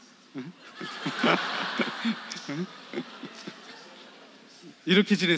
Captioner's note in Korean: 관객 : 웃음